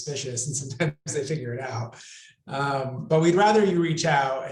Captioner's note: laughs